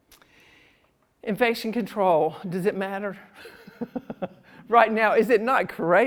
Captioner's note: laughs